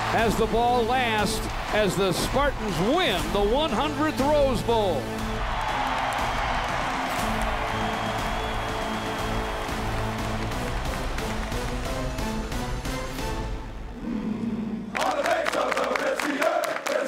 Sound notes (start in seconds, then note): 5.2 crowd cheers; 10.7 dramatic music